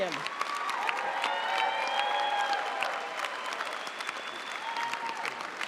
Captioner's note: audience cheering and applauding